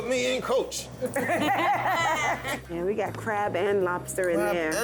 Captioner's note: all laughing